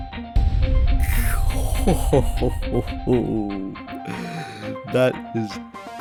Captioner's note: weird gushing sounds idk; inhale